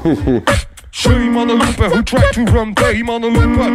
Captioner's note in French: beatbox